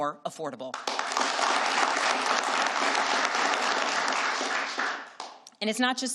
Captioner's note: applause